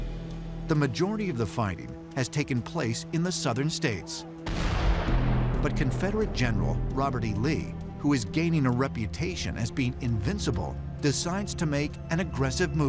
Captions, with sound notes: The majority of the fighting has taken place in the Southern states. [cannon thunders] But Confederate General Robert E. Lee who is gaining a reputation as being invincible, decides to make an aggressive move